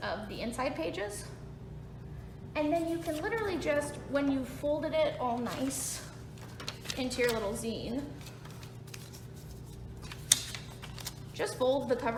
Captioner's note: folding noises